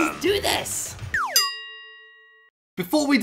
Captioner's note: bell ringing